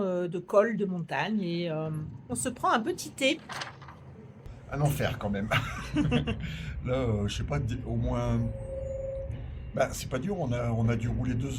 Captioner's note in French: rires